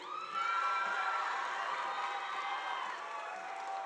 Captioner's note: audience applauding